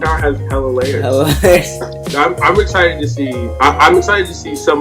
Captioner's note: laughs